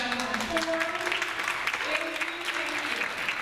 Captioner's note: audience applauds